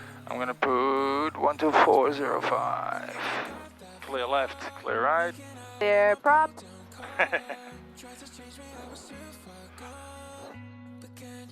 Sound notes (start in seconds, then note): 7.0 laughter